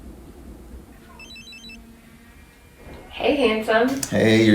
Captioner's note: phone rings